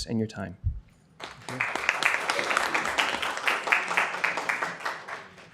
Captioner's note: applause